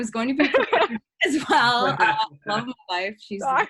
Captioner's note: laughs